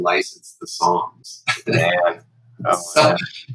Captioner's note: laughter